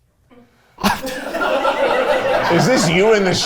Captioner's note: everyone laughs